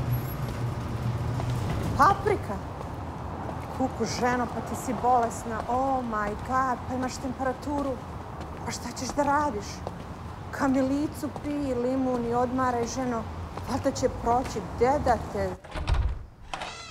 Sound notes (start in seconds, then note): 2.2 speaking in foreign language